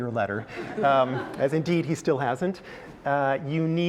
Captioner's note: laugh